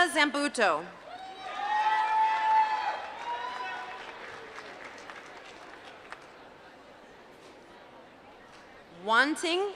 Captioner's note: applause